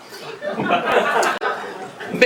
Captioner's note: laughs